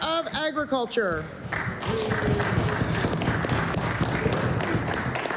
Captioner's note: applause